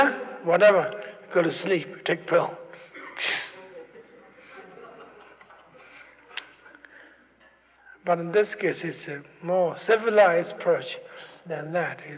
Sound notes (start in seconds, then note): 3.4 laughter